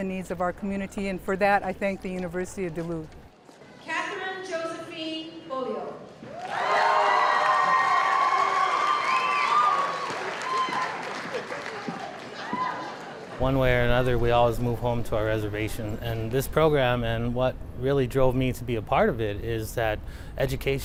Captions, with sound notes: OF OUR COMMUNITY, AND FOR THAT, I THANK THE UNIVERSITY OF DULUTH. >> KATHERYN JOSEPHINE BEAULIEU. [CHEERING AND APPLAUSE] >> ONE WAY OR ANOTHER, WE ALWAYS MOVE HOME TO OUR RESERVATION, AND THIS PROGRAM, AND WHAT REALLY DROVE ME TO BE A PART OF IT, IS THAT EDUCATION